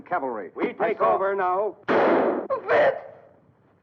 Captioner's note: gun firing